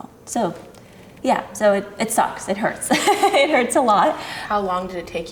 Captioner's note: laughs